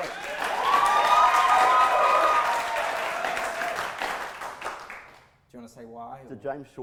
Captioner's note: audience applause